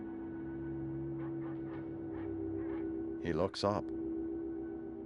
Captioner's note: barking continues